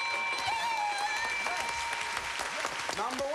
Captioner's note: cheers and applause